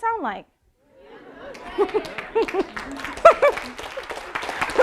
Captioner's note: audience applauding